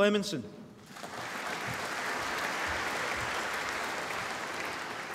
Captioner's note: applause